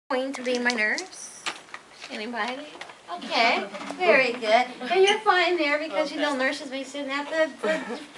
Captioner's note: students murmuring